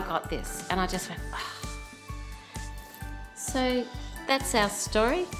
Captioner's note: sigh of relief